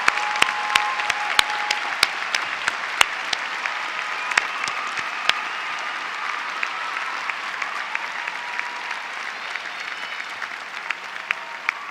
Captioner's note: applause